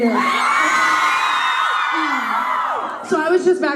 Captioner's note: fans scream